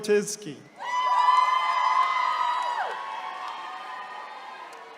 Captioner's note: attendees cheering